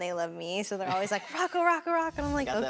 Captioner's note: laughs